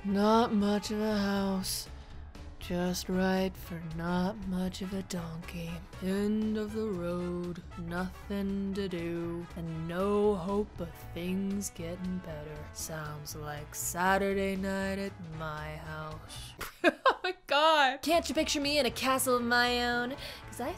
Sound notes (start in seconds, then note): 16.6 laughing